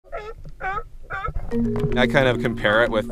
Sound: sea lions barking

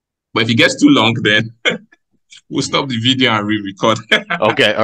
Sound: laughs

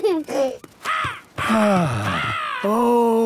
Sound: giggling; gull squawking; sighing

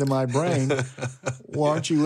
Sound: laughing

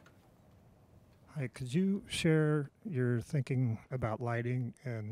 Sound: voiceover

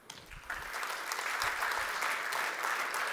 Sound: applause

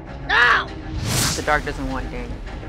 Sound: air whooshing

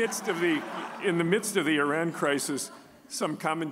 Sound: audience laughing

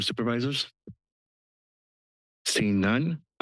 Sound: pause

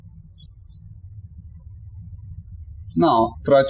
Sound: birds chirping

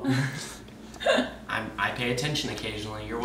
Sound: laughing

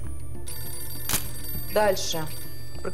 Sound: phone ringing

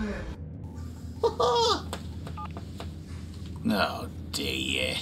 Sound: Archibald chuckles

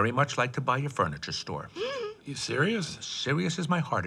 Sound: gasps

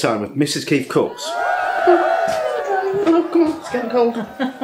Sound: cheerin

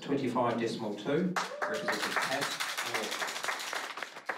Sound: cheering, applause

